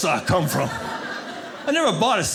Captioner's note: audience laughing